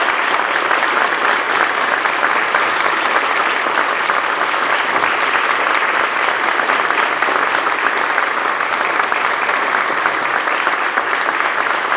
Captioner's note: applause